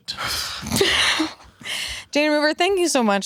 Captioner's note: laughs